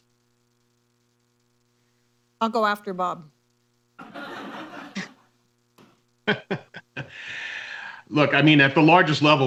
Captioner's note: laughter; laughs